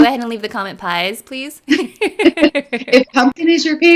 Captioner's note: laughing